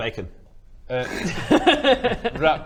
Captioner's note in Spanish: risa